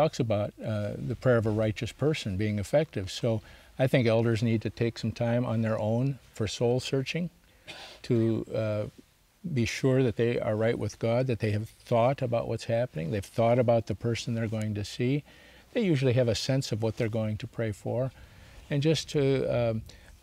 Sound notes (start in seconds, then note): 7.6 clears throat